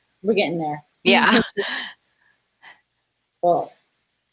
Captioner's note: laughs